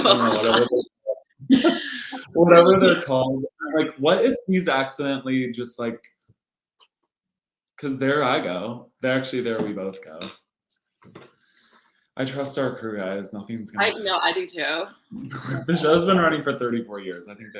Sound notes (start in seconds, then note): 0.0 laughing